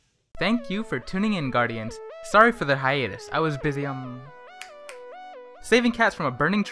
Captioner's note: snap Snap